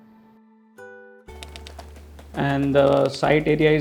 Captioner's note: birds flattering